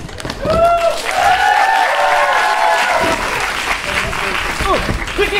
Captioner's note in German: Applaus und Jubel